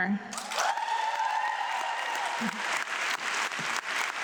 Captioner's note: audience clapping